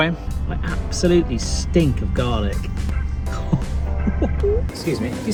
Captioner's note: laughs